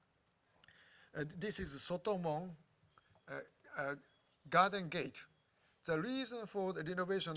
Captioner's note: japanese